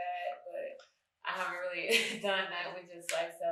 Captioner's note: chuckles